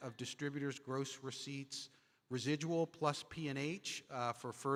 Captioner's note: none